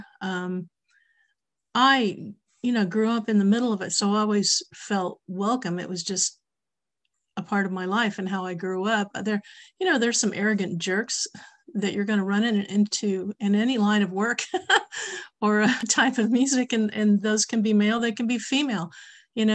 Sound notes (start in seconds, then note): 14.0 laughs